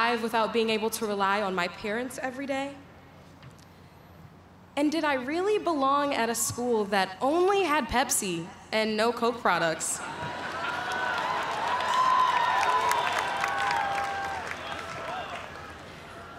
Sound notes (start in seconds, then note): 10.0 laughter; 12.2 cheers and applause